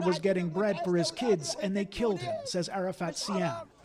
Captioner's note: speaking alternate language